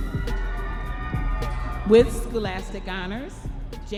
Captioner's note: audience members cheering